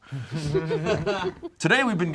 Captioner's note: group laughs